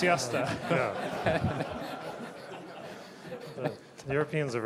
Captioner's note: laughter